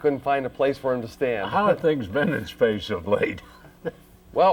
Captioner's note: chuckles